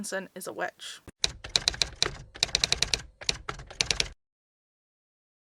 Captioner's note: typewriter Typing